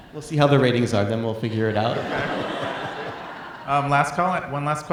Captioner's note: audience laughing